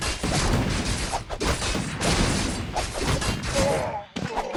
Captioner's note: sword clanking